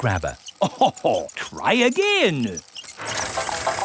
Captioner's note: chuckles